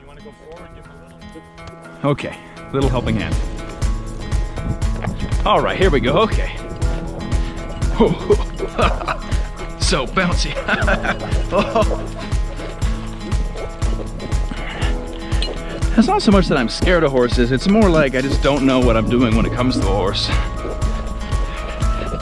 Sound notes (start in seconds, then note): 8.8 laughs; 12.4 upbeat music; 22.0 upbeat music